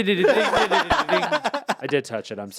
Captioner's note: laugh